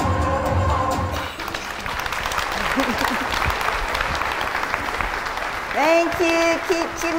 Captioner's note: applause